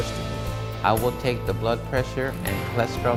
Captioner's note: voiceover